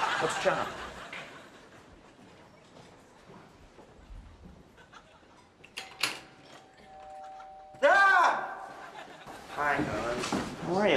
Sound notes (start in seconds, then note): 0.0 audience laughs; 6.6 doorbell rings